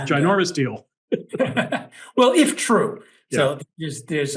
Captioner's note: laugh